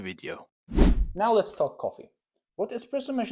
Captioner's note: whoosh